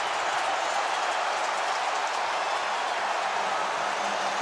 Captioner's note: cheering